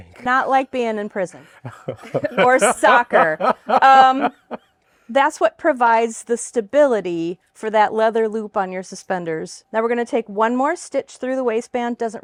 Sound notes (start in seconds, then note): 3.2 laughs